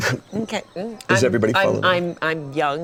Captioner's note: stuttering